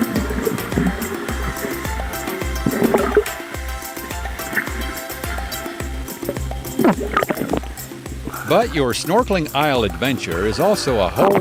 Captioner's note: water sounds